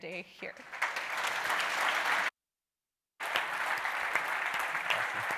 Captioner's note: audience clapping loudly